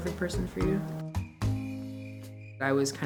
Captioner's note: crickets chirping